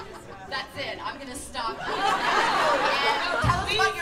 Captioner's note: laughter